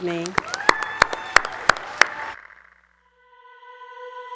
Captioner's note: audience cheering and clapping; airy electronic music